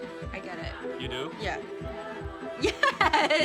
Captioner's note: laughing